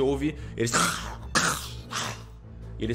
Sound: growls

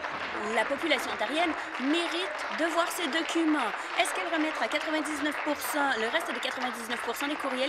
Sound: applause

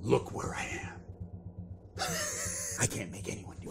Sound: laughs

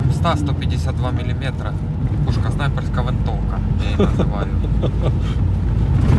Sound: laughter

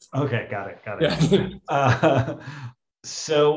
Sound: laughter

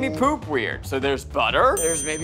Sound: bell rings

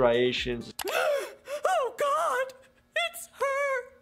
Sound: gasps

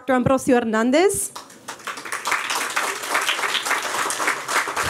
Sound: applause

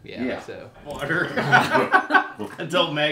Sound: laughing

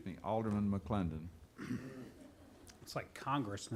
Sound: laughing

